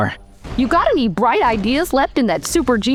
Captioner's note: Erica voice